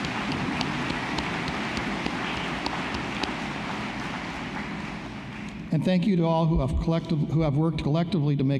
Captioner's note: applause